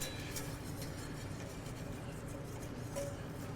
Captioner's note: whisk scraping